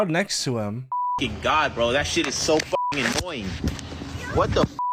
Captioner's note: beep; beep